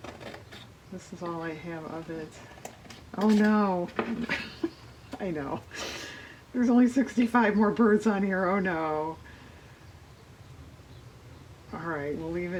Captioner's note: laughs